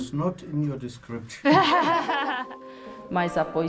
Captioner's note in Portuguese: risos